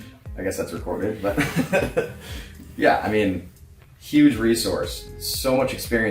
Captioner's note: laughing